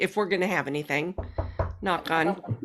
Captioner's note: knocking desk